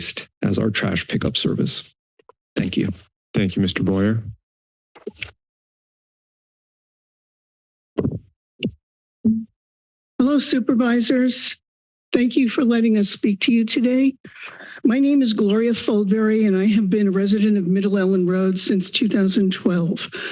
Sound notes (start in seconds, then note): 6.0 silence; 8.0 mic thumps; 20.2 inhales